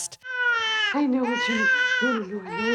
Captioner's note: baby crying